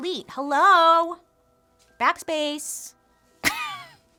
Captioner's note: laughs